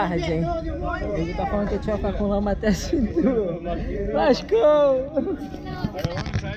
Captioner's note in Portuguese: risos